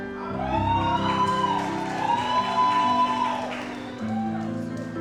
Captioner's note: audience applauds